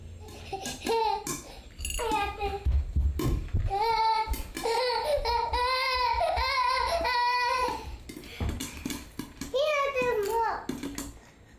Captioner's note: laughs